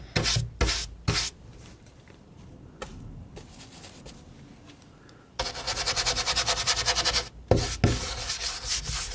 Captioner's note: scratching